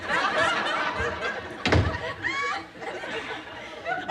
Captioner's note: door slams